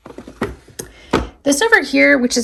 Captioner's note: drawer thudding